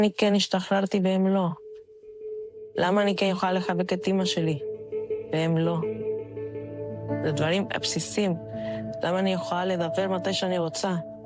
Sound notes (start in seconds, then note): 0.5 speaking in a global language